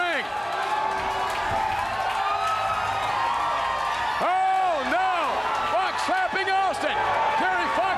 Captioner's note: applause